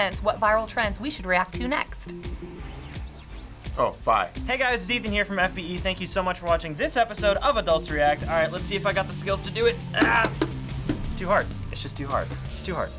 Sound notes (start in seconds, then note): 10.2 spinner clatters